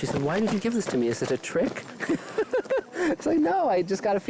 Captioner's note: laughing